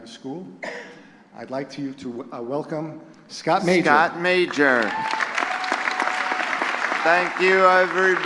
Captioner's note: applause